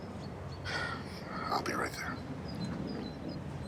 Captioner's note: sighs